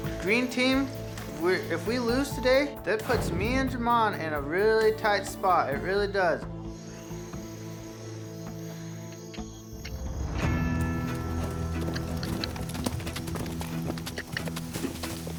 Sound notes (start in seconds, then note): 6.4 crickets chirping; 10.4 hoofbeats